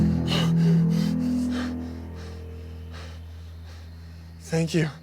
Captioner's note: ominous music; Tyler pants